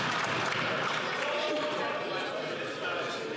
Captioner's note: some Applause